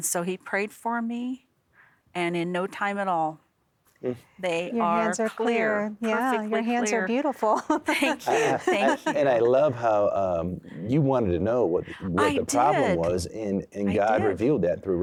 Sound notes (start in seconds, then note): 7.4 giggling